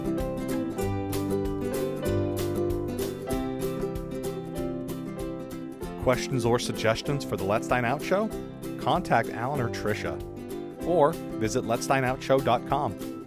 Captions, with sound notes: - [Voiceover] Questions or suggestions for the Let's Dine Out show? Contact Allan or Tricia or visit LetsDineOut.com.